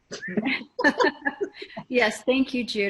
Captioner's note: laughing